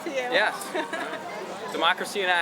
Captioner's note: laughter